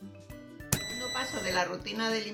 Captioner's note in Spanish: sonido: piiii